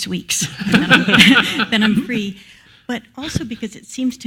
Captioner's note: laugh